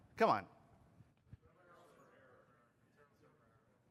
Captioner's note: off microphone